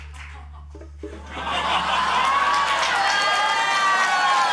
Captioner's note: cheering, applause, laughter